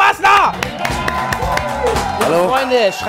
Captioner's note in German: Jubel, Applaus